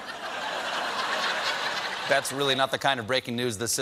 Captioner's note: laughter